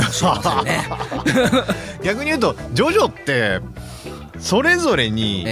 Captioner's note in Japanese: 笑い